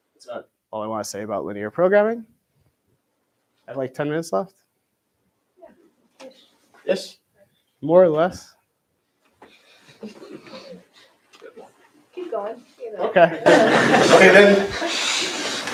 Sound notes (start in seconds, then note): 13.1 laughter